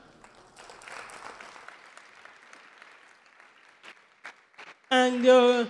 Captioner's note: audience applause